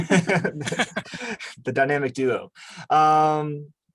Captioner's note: laughs